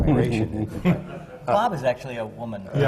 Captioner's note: laughter